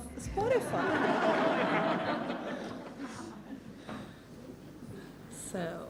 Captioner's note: laughs